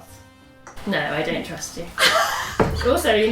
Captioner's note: laughs